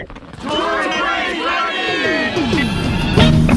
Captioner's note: crowd